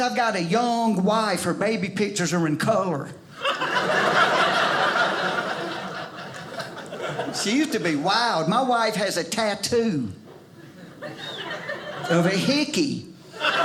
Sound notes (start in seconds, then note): 3.3 audience laughing